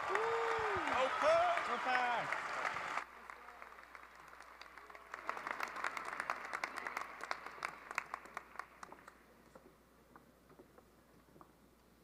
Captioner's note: cheering and applause